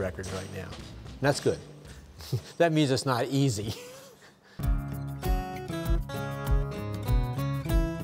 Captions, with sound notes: Still has two records right now. And that's good. That means it's not easy. (laughs)